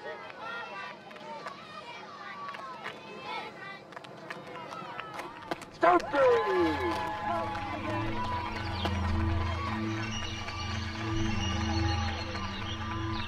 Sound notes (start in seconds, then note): 7.9 applause